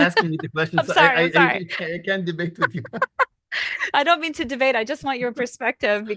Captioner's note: laughter